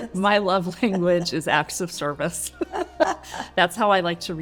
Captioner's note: laughing